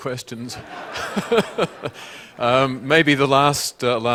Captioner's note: laughter